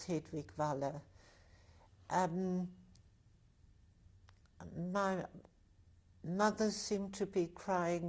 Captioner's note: pauses for 3 seconds